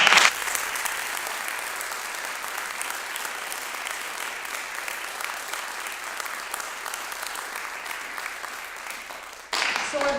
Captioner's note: applause